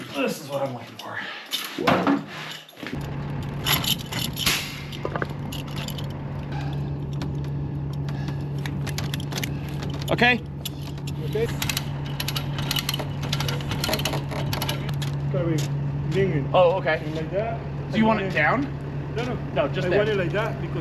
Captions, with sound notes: This is what I'm looking for. (strap rattles) Okay. - Okay. (ratchet clicks) Can we lean it like that? - Oh, okay. Do you want it down? - No, no, no. - No, just there. - I want it like that